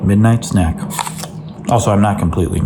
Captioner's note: crunching snack